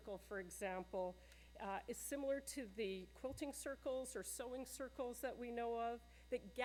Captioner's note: none